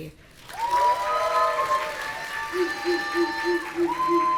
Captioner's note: audience cheering